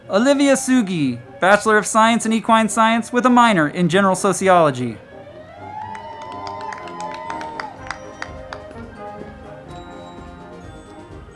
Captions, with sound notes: Olivia Segui, Bachelor of Science in Equine Science with a Minor in General Sociology. (band music) (crowd clapping and cheering)